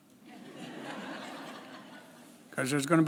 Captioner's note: laughs